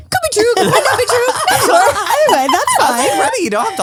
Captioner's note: all laughing